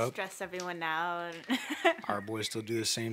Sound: Dani laughs

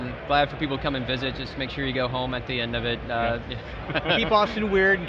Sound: chuckles

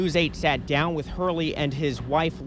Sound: current

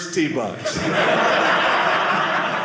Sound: audience laughing

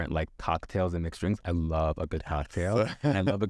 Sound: laughs

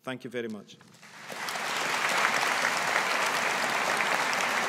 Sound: audience applauding

